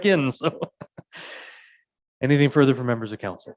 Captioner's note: mayor laughing